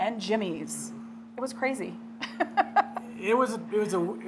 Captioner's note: laughing